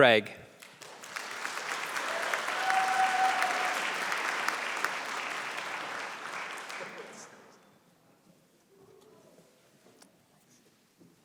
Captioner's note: applause